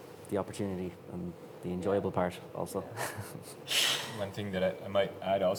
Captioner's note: chuckling